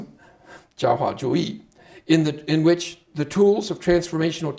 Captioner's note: speaking Chinese